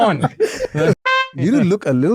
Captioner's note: exclaims